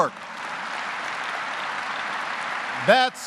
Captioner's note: applause